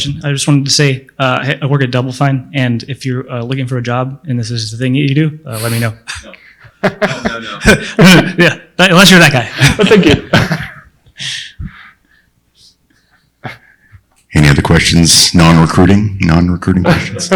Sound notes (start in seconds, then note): 6.7 laughs; 16.8 laughs